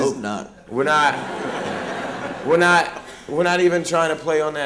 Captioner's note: laughter